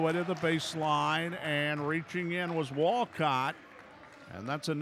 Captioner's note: clapping